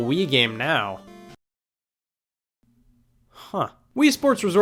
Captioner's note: music stops